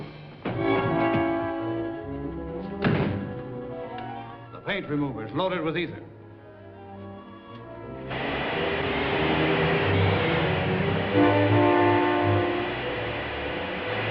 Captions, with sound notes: [DOOR SHUTS] The paint remover is loaded with ether. [GAS BLOWING] [SUSPENSEFUL MUSIC]